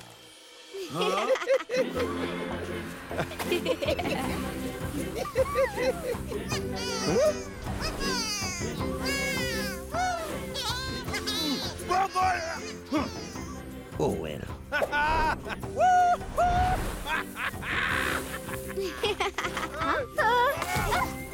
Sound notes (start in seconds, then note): 0.8 laughing; 5.8 Bongolalas cheering; 10.2 laughing; 17.1 laughing